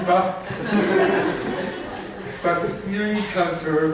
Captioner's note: laughter